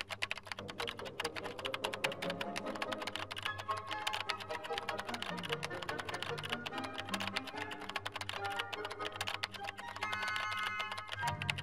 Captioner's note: typing